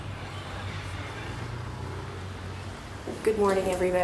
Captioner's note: traffic passes